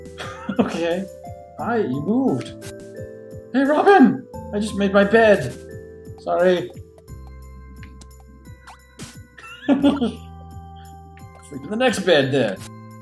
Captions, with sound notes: [chuckling] Okay! Hi, you moved! "Hey Robin!! "I just made my bed!" Sorry! [laughs] I'll sleep in the next bed, then!